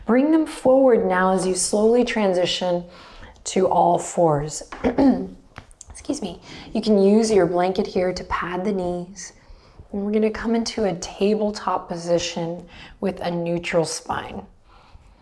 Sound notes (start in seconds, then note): 4.8 clears throat